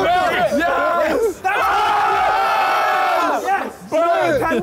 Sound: all cheering

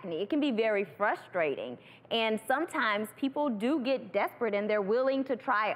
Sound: none

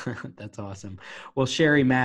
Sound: laughing

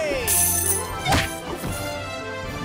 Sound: coin clinking

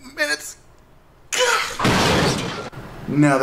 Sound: gasps, crashing

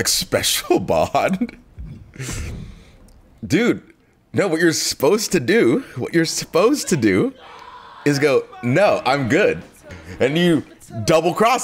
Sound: laugh

